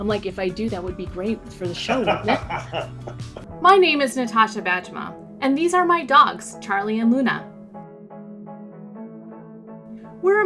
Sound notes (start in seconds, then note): 1.8 laughter; 7.7 upbeat music